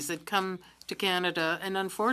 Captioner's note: speaking French